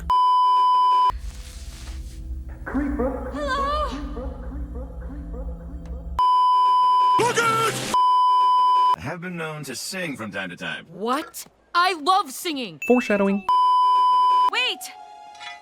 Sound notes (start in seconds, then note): 0.1 beeeeeeeeeeeep; 6.1 beeeeeeeeeeeep; 13.3 beeeeeeeeeeeep